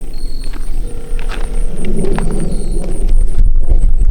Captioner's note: wind Blowing